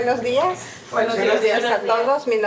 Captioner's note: speaking in Spanish; students speaking in Spanish